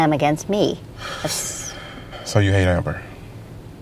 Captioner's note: sighs